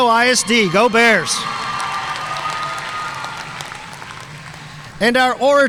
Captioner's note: audience cheering and applauding